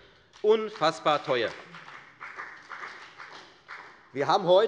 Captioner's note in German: Beifall bei der FDP